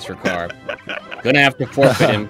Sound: laughter

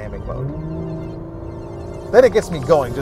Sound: engine revving

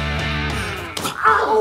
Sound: punch sound

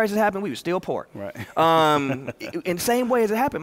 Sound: laughs

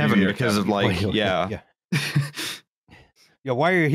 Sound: brief laugh

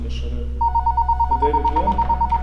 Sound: phone Ringing

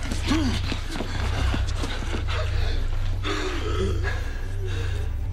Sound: exhausted Breathing

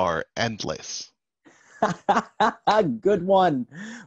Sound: laughs

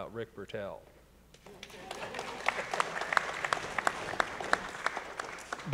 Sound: audience applauding

